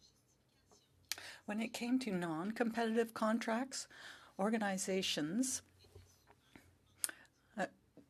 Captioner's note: speaking French